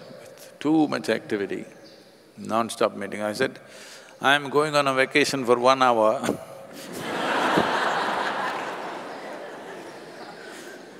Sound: laughter

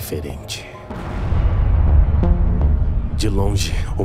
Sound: large explosion in the distance

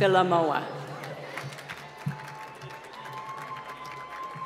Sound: applause

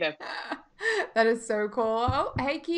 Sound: laughing

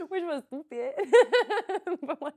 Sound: laughs

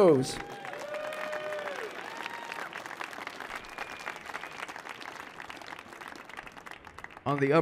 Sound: applause

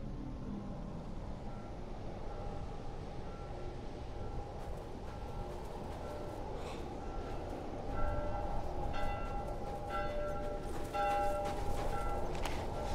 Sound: bell ringing

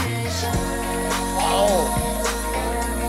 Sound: humming automatically

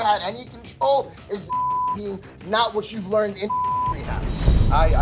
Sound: beep

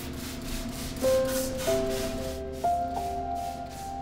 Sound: mist spraying

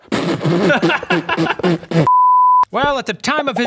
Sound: blows raspberries; laughs

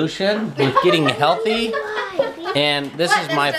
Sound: laughing

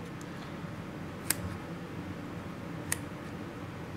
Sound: clipping sounds

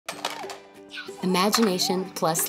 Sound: toys clattering

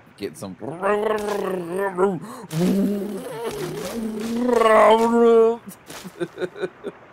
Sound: off-road racing noises

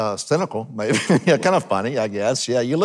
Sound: chuckling

